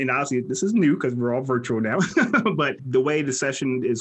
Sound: laughs

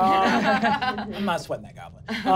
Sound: laughing

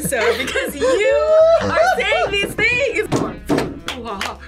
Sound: laughs

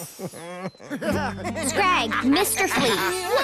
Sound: giggling

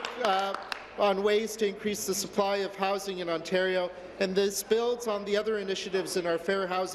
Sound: applause

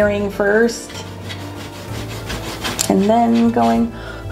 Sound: eraser rubbing; blows

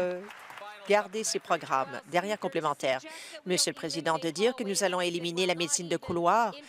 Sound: applause

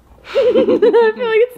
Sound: laugh

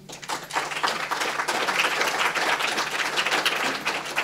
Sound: applause

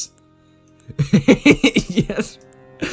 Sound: laughing

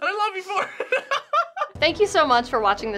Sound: laughs

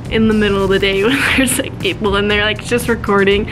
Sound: laughs

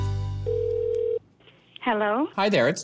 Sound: line Ringing

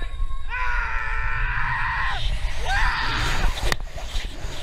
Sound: people chattering; screaming

